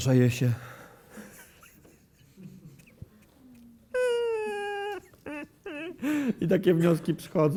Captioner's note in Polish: płacz